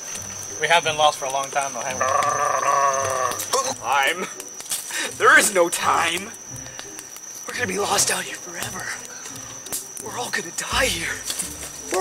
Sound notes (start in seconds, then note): 2.0 gargling; 9.2 fire crackling